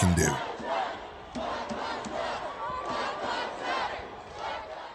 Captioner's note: chanting "Black lives matter"